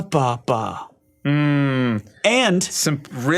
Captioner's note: man grunts pensively